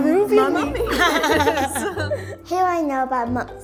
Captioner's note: laughter